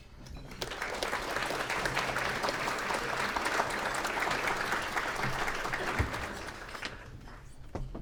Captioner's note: clapping